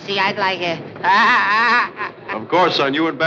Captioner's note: laughs